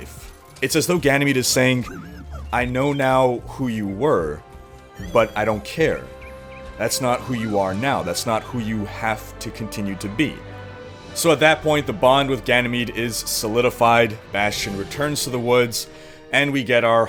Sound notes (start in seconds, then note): 4.9 Bastion warbles happily